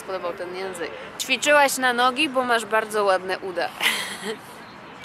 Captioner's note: laughter